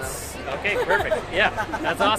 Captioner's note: people laugh